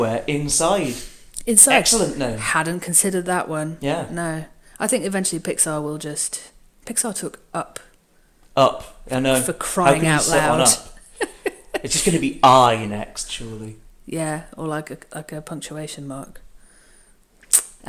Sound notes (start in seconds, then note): 11.5 laughs